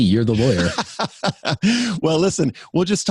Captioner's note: laughing